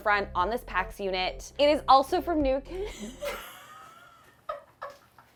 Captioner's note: laughs